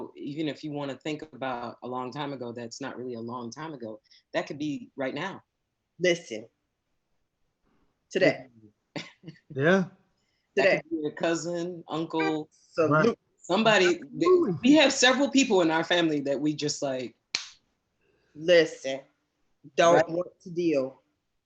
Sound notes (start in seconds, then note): 17.3 slaps forehead